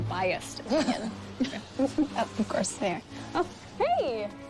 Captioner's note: giggles